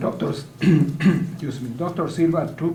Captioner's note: clears throat